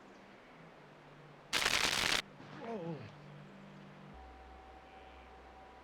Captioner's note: electrical fence sizzling